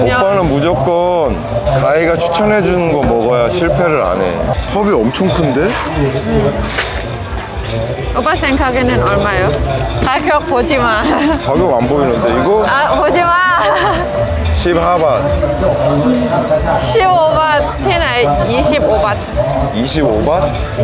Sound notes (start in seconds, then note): 10.6 laughing